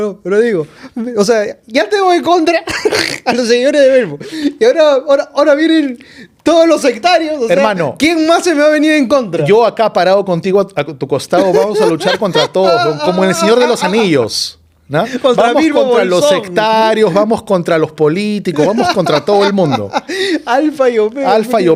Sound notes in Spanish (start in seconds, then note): 11.4 risas